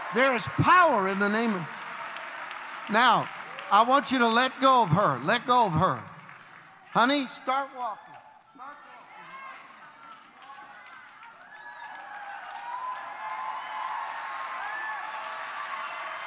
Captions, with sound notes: There is power in the name of, now, I want you to let go of her. Let go of her. Honey, start walking. Start walking. (congregation applauds)